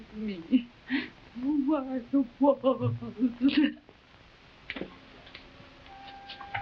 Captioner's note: sobbing; soft mournful music